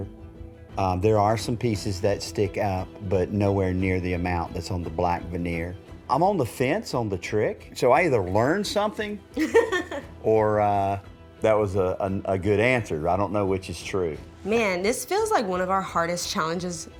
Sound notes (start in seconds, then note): 9.3 laughter